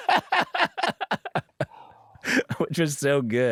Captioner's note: laughter